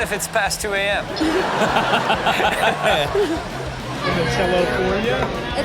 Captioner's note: hosts laughing